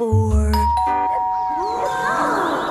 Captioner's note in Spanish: suena el timbre